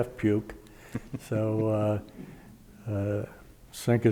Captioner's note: chuckling